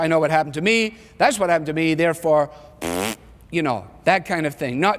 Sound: blows raspberry

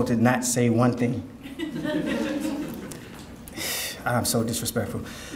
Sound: audience laughing

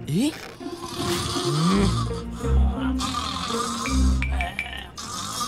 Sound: snoring

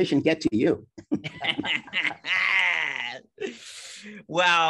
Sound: laughing

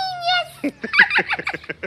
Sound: both laugh

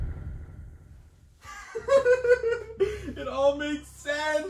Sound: maniacal laughter

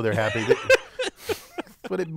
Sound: laugh

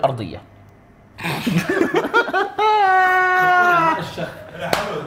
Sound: both laugh

